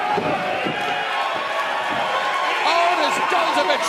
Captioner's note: cheers and applause